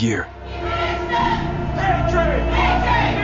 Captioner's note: recruits shouting